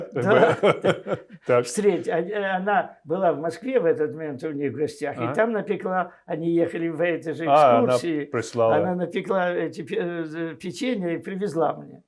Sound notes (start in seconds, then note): 0.0 laughing